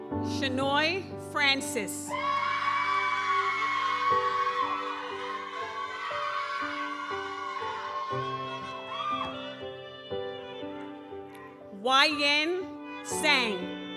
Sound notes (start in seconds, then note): 2.1 audience cheers; 2.4 gentle music continues